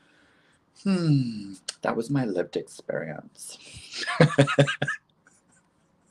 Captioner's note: laughs